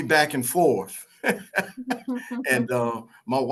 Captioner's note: laughter